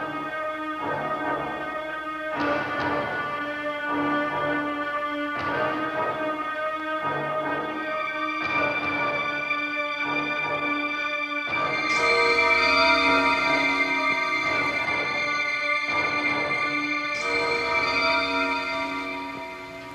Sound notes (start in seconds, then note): 12.2 scary bells; 18.3 music fades